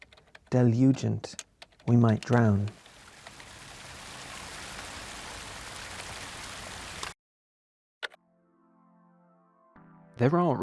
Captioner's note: cascading water sound fx